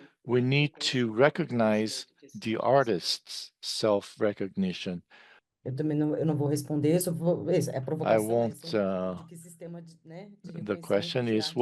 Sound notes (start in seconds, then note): 6.1 speaking in Portuguese